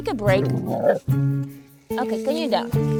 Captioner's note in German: Hund grunzt